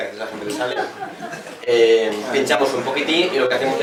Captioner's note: laughs